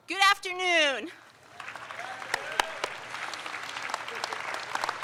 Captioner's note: audience applauds